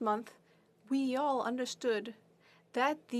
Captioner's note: speaking French